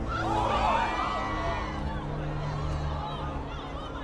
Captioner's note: people screaming